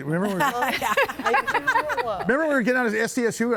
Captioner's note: laughs